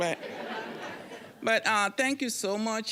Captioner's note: audience laughing